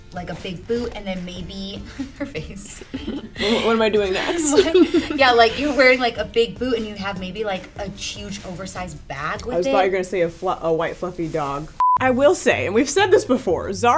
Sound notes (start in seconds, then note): 1.9 laughs; 4.7 giggles